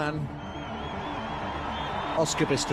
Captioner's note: spectators cheering